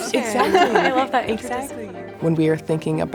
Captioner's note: laughing